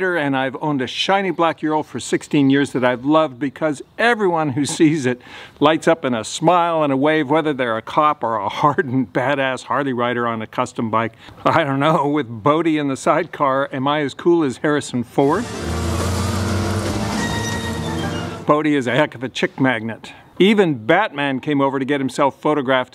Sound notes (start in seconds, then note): 15.2 engine roaring